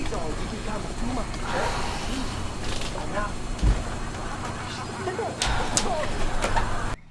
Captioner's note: tv comedy show playing loudly